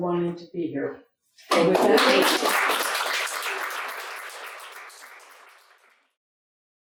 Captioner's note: audience applauding